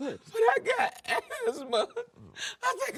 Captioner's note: crying